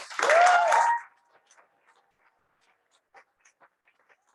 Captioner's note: crowd applauses